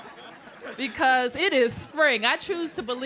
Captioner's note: laughter